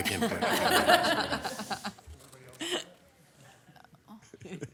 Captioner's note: people laughing